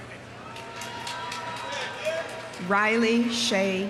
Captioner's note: audience cheering; audience applauding